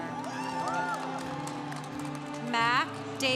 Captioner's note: congregation cheering